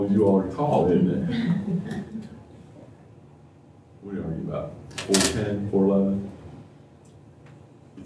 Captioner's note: laughter